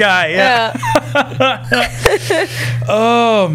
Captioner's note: laughter